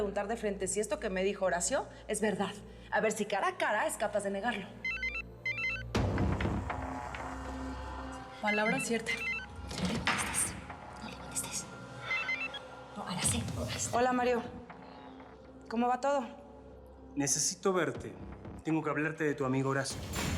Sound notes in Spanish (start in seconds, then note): 4.8 suena un celular; 10.2 susurra